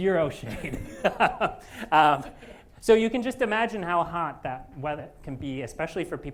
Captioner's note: laughs